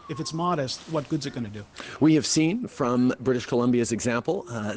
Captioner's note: kids squealing